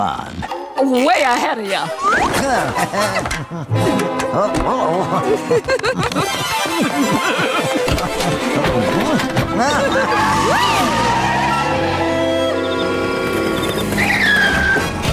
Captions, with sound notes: Way ahead of ya! [laughing] Whee!